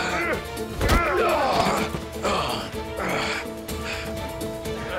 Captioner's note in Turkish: Dövüş sesleri